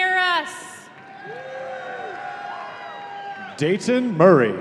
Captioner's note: audience cheering